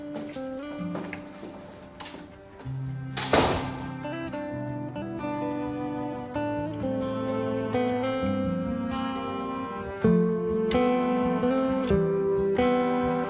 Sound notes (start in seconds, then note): 3.2 thud